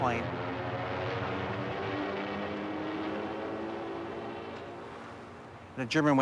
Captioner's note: aircraft engine roars